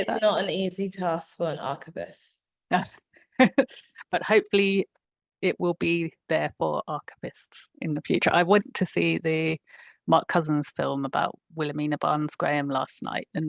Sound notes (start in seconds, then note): 3.4 chuckling